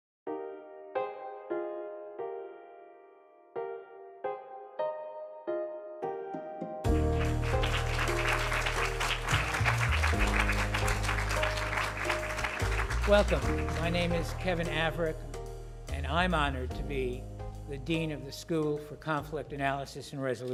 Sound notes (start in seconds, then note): 6.8 applause